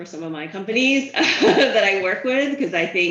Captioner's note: laughs